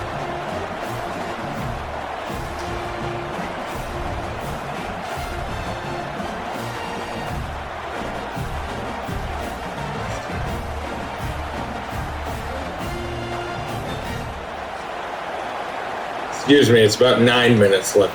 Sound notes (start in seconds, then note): 0.0 crowd Noises